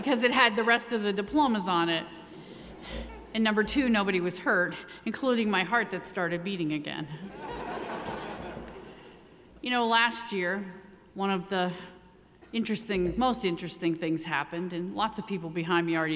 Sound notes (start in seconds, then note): 7.3 audience laughing